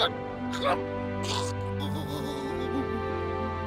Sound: gurgles; sad orchestral music

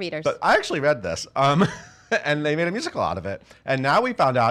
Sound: laughing

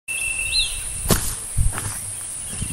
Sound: footsteps

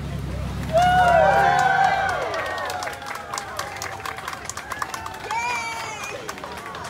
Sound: applause

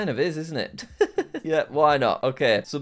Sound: laughs

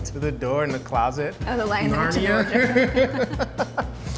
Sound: laughs

